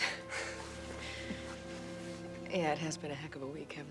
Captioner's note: both chuckle